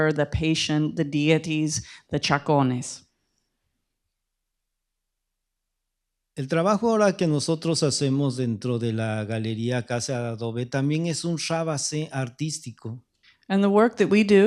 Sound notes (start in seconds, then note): 7.1 speaking spanish